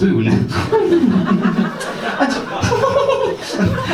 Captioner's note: giggles